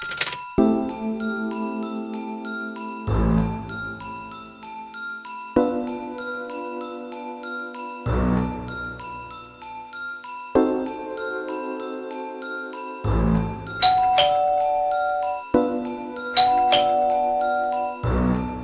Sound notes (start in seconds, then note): 13.7 ding, dong